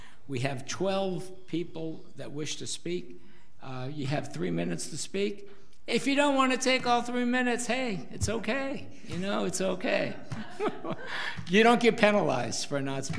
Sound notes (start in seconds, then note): 10.3 audience laughs